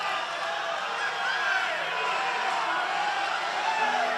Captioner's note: applause